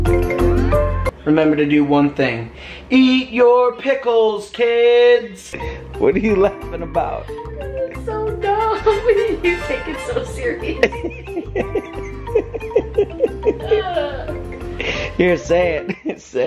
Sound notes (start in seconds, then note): 11.7 laughing